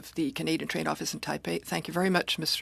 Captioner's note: speaking French